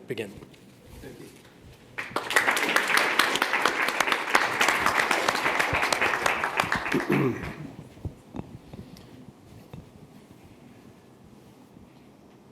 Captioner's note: applause